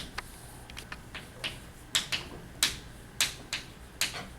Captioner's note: chalk clicking on board